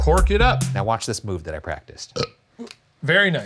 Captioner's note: belches